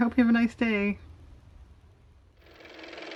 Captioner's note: car motor